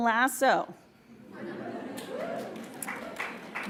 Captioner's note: laughs